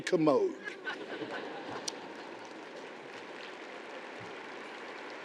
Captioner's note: audience applauding